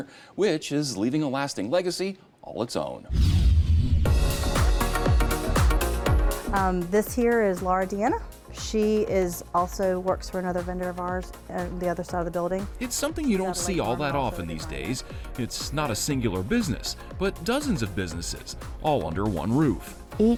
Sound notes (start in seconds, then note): 3.1 screen whooshing; 3.1 upbeat music